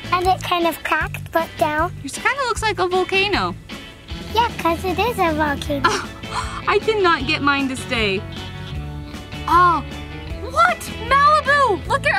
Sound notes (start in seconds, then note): 5.8 mom laughing